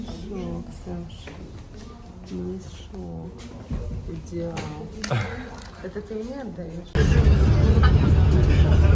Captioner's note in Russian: откашливается